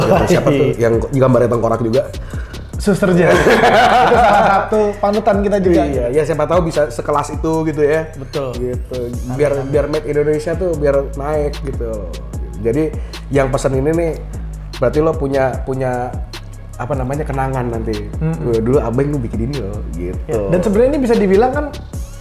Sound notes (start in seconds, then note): 2.9 laugh